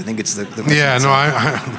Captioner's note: brief laughter